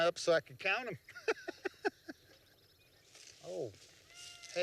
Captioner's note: laughs